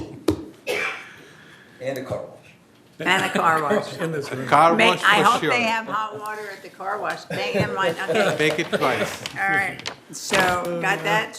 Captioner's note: laughter